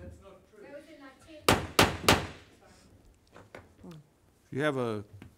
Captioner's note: wood gavel banging